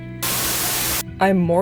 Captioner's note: Static